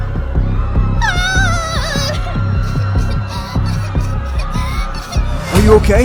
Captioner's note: little girl wimpers